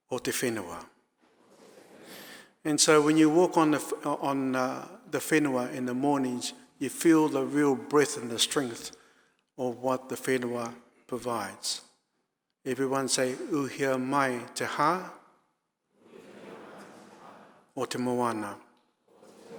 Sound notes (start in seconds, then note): 0.0 audience speaking in foreign language; 0.3 speaking in foreign language; 1.5 audience speaking in foreign language; 13.2 speaking in foreign language; 16.2 audience speaking in foreign language; 17.9 speaking in foreign language